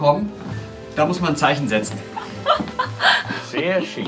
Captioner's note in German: lacht